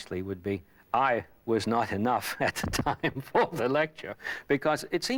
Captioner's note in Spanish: risas